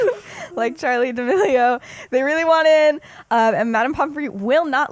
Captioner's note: laughs